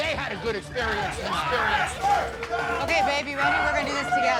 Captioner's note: customers cheering